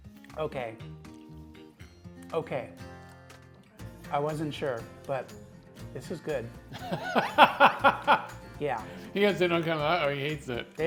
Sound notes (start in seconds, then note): 6.7 laughs